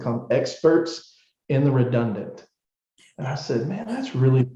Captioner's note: chuckle